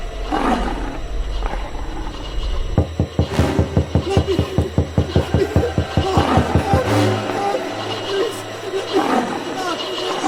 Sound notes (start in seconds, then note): 2.7 frantic knocking